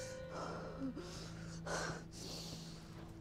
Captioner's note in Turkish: Nefes sesi